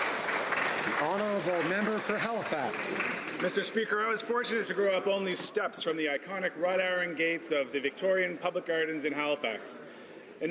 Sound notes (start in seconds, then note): 3.5 some Applause